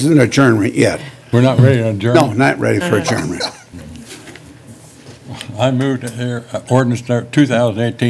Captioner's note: laughter